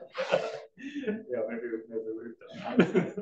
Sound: all laugh

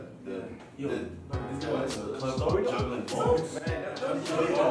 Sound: group talking

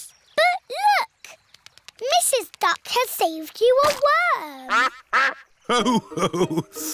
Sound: quacks

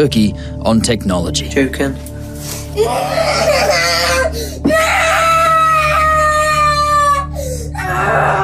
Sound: children screaming and crying

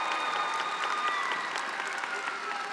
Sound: attendees applauding and cheering

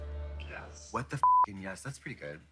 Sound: beep

